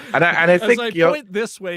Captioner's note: both laughing